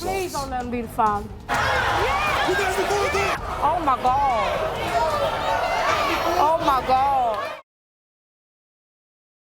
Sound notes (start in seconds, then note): 1.5 yelling and crowd noise